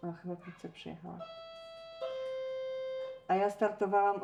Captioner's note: door bell